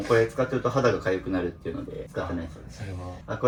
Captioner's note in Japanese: 鼻息